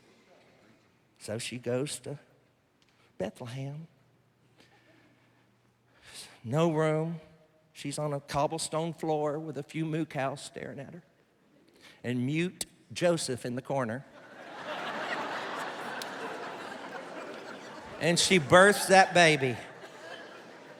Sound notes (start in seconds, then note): 14.1 laughter